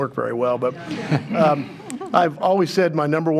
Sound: attendees chuckling

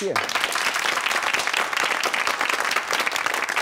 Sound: audience claps

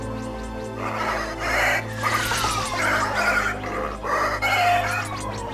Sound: grunting

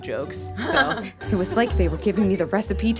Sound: laughing

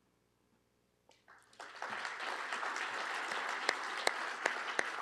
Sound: applause

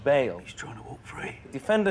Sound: whispering

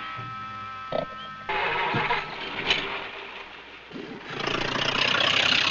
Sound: car engine running

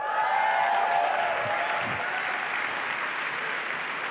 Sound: applause and cheering

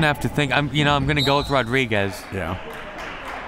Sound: whistle

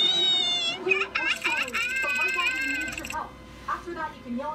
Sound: sobbing

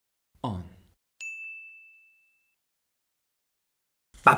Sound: familiar shine on - sound

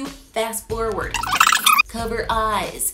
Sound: audio track whirring

